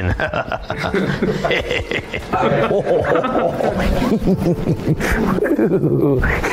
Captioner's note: chuckling; men chuckling